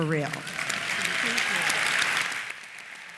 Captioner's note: applause